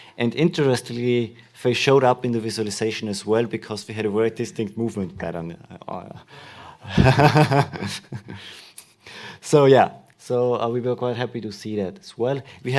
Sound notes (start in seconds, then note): 6.8 laughter